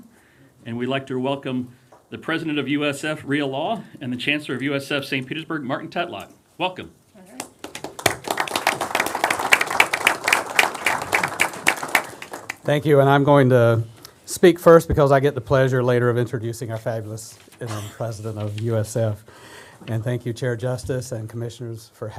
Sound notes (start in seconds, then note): 11.1 applause